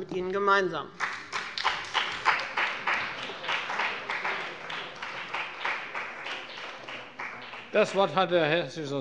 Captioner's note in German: Beifall bei dem BÜNDNIS 90/DIE GRÜNEN und der CDU